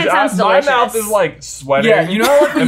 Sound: laughing

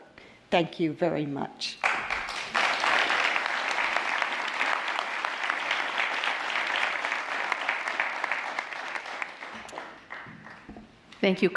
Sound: applause

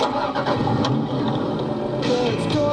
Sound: engine rev; pop music

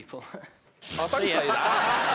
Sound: laughing

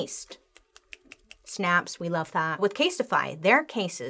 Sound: snapping fingers

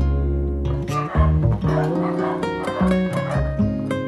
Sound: dogs barking

